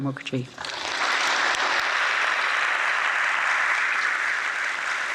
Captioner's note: audience applauds